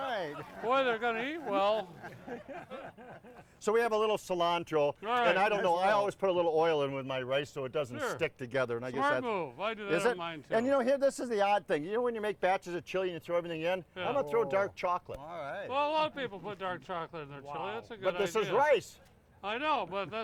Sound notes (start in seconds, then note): 1.9 audience laughing